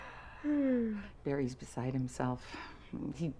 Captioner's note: none